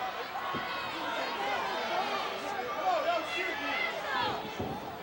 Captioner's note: audience chattering